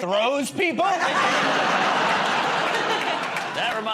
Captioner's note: laughter